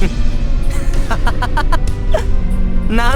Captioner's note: chuckle; laugh